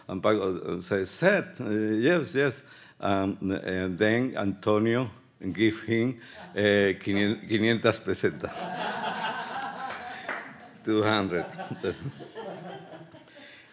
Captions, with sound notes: And Paco says, yes, yes. And then Antonio give him (speaking Spanish). (audience laughs) 200.